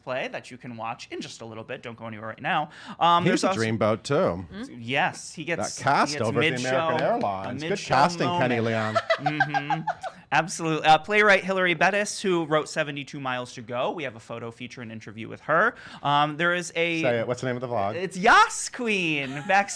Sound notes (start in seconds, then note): 6.8 clapping; 8.1 laughs